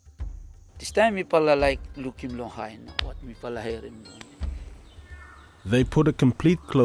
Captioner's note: speaks in foreign language